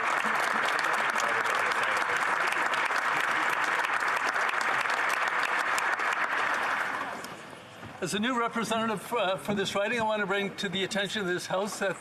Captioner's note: applause